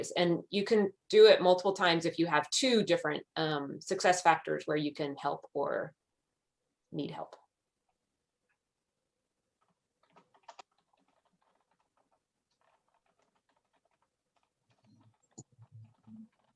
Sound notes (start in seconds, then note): 10.1 keyboard keys clicking